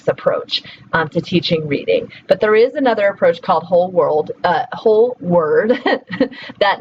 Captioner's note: laughs